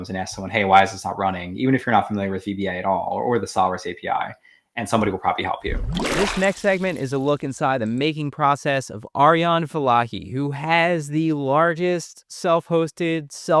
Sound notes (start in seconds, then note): 5.6 water splashing